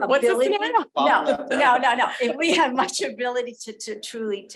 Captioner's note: chuckling